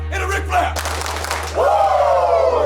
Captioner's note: claps